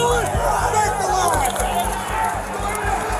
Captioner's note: shouting